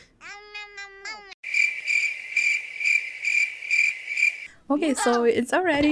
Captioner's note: crickets